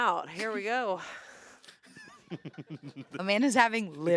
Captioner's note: laughs